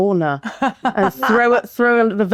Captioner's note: laughing